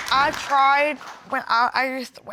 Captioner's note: stuttering